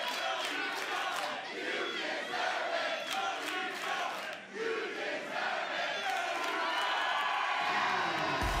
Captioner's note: fans chanting; cheers and applause